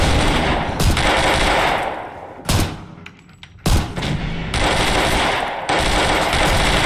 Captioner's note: gunshots